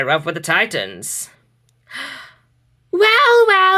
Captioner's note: gasps